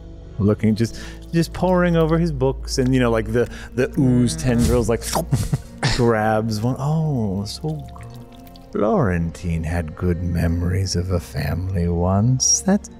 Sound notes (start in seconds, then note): 4.9 suction sound